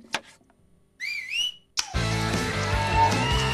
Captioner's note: whistle; click; rock music plays